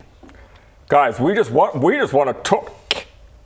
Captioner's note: snap